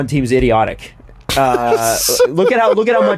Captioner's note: laughter